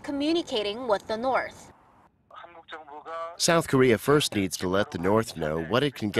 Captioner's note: Korean